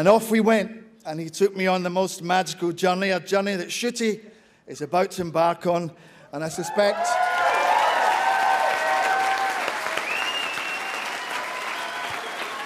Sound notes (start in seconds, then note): 9.8 audience cheers